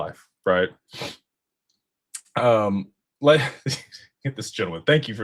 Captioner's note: snorts